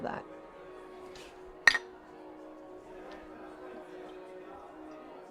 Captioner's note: bottles clanking